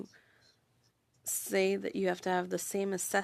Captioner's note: speaking French